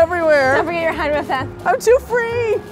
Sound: speaks sarcastic gibberish

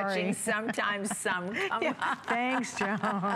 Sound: laughter

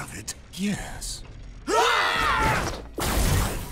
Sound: grunting

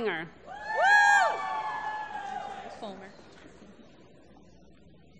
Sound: applause

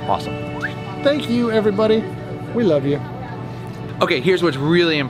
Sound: whistles

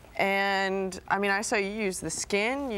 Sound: none

